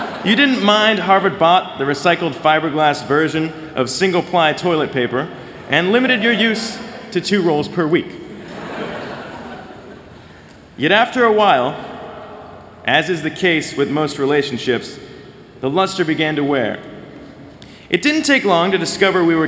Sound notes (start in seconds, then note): 0.0 laughter; 8.3 laughter